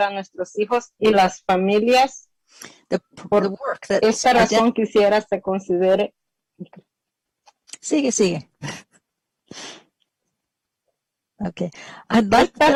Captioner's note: speaking spanish